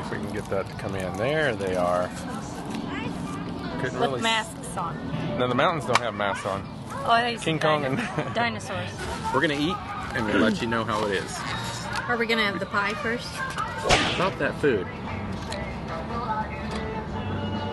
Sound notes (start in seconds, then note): 7.9 laugh